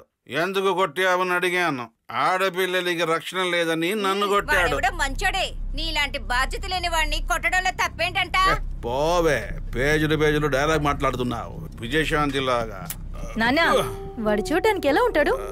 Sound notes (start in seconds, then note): none